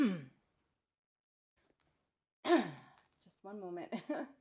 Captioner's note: clears throat